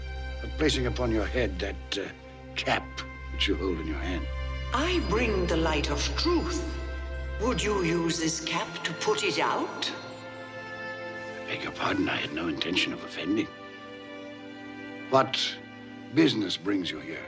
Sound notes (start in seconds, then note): none